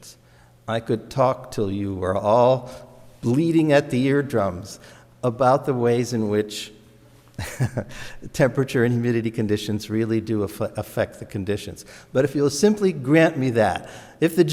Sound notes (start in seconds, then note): 7.4 laughs